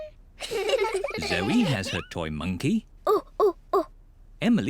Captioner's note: hoots